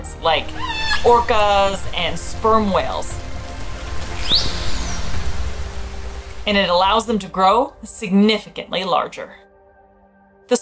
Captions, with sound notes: like orcas and sperm whales. (background music) (whale vocalizations) And it allows them to grow significantly larger. (background music)